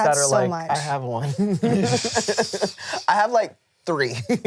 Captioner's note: laughs; laughs